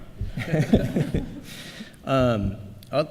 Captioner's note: laughter